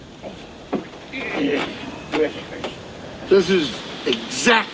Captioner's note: Jake groaning